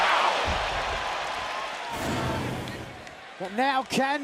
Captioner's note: cracking